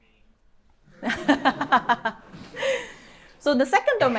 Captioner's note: laughs